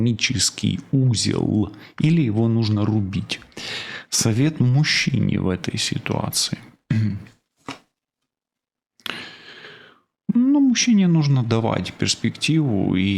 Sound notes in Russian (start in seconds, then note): 6.9 откашливается